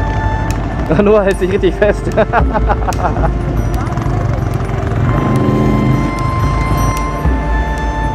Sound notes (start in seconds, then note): 2.1 laugh